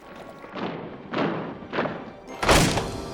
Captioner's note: heavy footsteps approaching